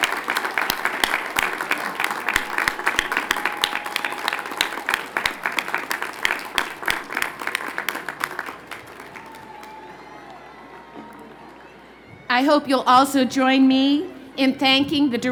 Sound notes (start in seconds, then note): 3.1 applause